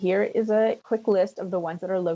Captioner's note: speaking French